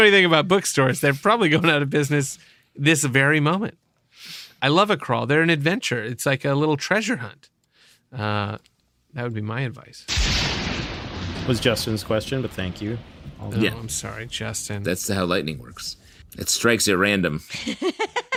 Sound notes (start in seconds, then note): 0.0 laughter; 10.1 lightning strikes